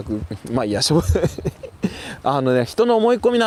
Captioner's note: laughs